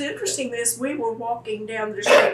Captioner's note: laughs